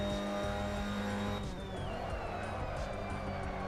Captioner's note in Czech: Potlesk